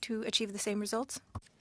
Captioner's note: speaking French